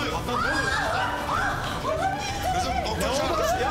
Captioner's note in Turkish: Çığlık atıyor